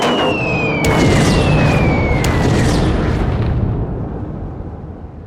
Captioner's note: bombs explode; missile shrieks